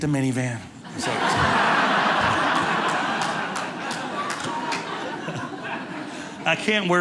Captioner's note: audience laughing